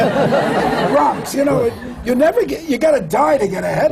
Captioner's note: laughter